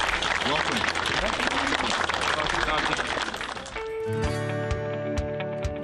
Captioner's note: applause